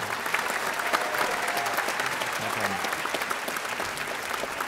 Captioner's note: audience applauding